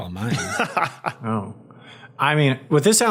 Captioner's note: laughs